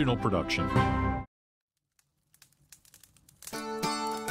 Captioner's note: fire crackling; upbeat folksy music